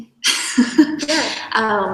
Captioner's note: chuckles